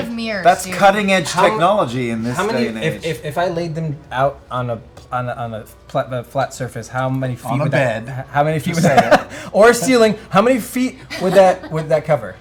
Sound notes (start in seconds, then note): 8.7 laughs